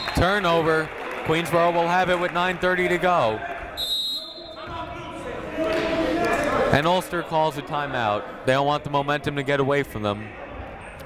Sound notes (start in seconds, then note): 3.8 whistle blowing